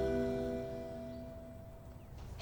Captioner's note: birds chirping